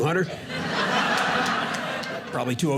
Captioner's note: audience laughing